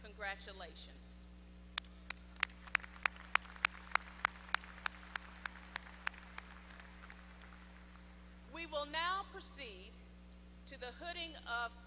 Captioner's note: applause